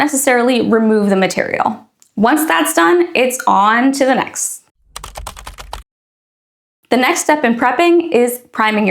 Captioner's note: keyboard Clacking